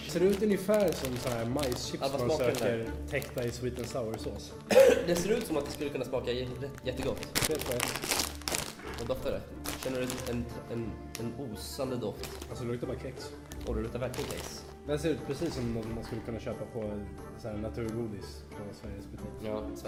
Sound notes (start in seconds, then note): 4.6 cough